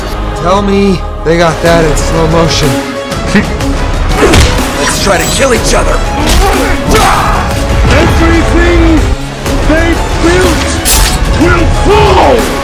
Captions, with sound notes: Deadpool:Tell me they got that in slow motion. Quicksilver:(Scoffs) Deadpool:Lets try to kill each other. Apocalypse:Everything. Apocalypse:They've built. Apocalypse:Will fall.